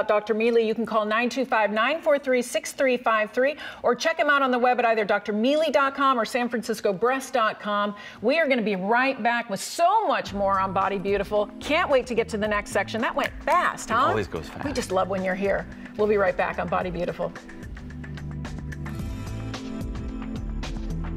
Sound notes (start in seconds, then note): 13.2 snaps fingers; 17.8 jazz music playing